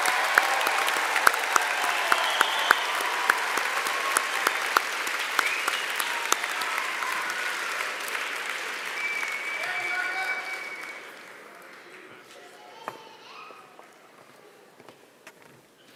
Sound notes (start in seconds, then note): 3.1 applause